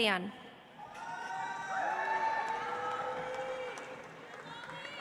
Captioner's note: audience applauds